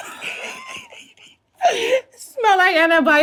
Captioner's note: Treasure laughs